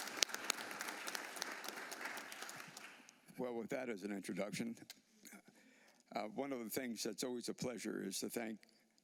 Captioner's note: applause